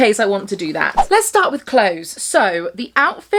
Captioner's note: audio whooshing